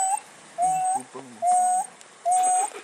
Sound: dog whimpers from inside vehicle; dog continues whimpering

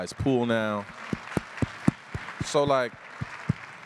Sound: applause

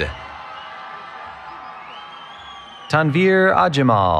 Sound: cheering

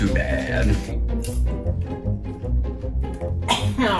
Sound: crunching; coughing

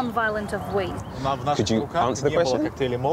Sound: speaking in foreign language

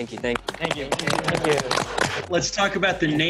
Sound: all clapping

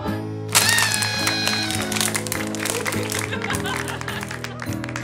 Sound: party horn, laughter, applause

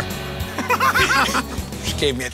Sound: laughter

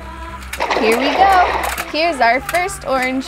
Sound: water splashes

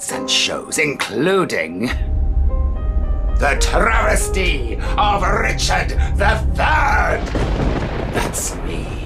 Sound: thunder clap

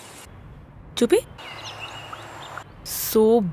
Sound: birds chirping

